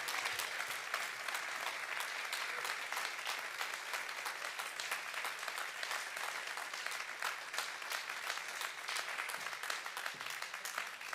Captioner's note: applause